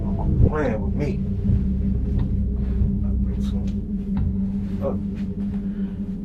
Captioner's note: mutters